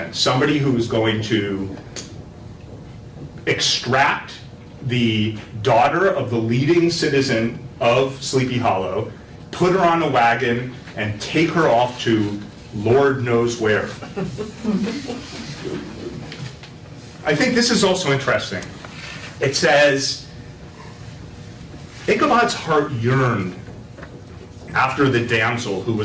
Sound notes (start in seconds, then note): 13.9 laughter